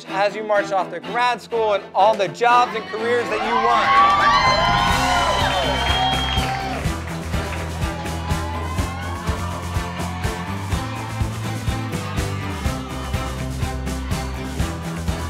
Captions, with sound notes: as you march off to grad school, and all the jobs and careers that you want. (students cheering) (applause) (students chanting)